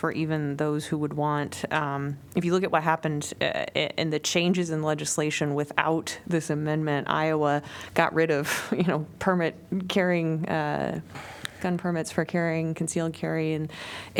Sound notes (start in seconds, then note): 8.1 laughter